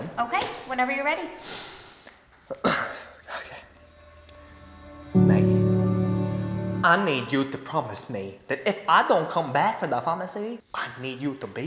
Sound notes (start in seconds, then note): 1.4 breathes In; 2.5 coughs; 3.4 whispers "Ok"; 5.7 in Asian and Country accent